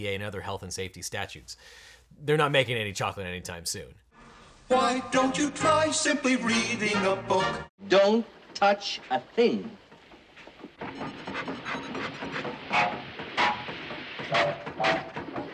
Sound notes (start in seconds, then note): 10.8 machine whistling